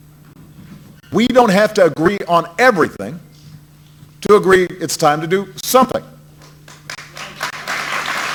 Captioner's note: applause